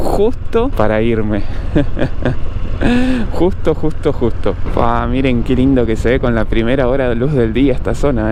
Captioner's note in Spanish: risas